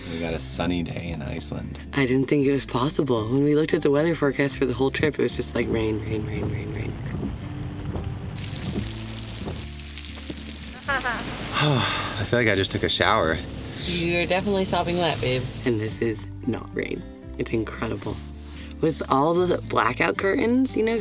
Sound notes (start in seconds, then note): 8.2 rain pouring; 10.8 laughs; 11.4 sighs